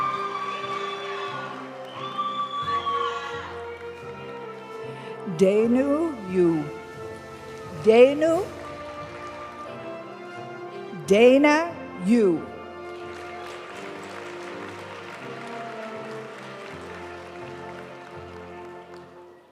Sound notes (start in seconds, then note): 0.0 audience cheering and applauding; 0.3 graduation music; 12.7 audience applauding; 16.3 graduation music